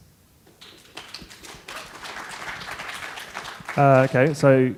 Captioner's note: applause